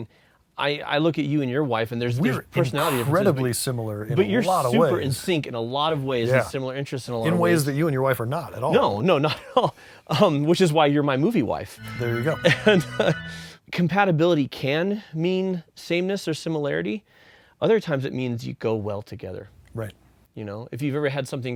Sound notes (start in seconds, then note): 11.8 wedding bells toll